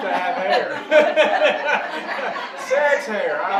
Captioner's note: audience laughing